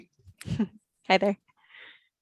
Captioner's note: chuckles